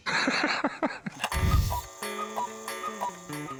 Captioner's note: laugh; cuckoo clock